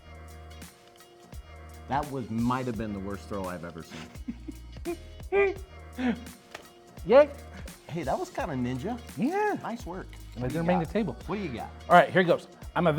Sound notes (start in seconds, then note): 3.9 laughing